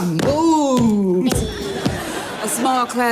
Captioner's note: feet stomping; audience laughing